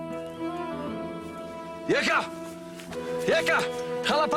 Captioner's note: speaking in foreign language